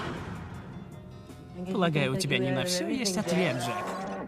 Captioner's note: mocking